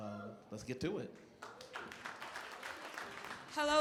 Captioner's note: applause